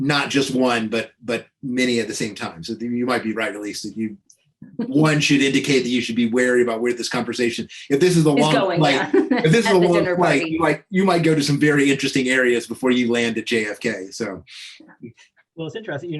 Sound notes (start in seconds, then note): 1.7 chuckles; 6.5 laughing